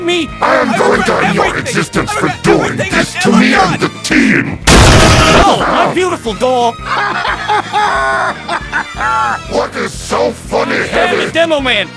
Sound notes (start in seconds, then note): 4.6 door randomly explodes; 6.8 heavy laughs as if everything is funny